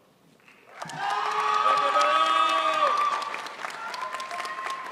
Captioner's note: crowd applauds